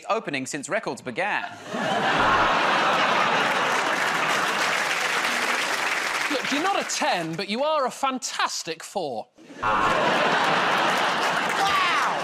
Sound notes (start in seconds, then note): 2.2 buzzer buzzes; 4.2 laughter and applause; 9.6 buzzer buzzes